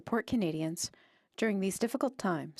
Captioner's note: speaking in French